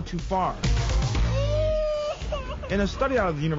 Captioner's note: baby cries